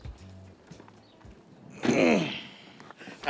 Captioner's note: groan